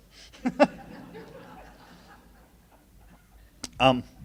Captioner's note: laughing